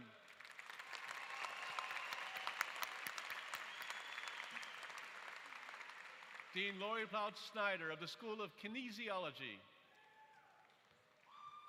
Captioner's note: applause